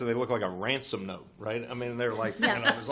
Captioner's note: chuckles